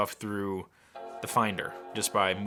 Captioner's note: startup sound